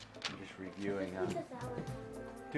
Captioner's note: foreign language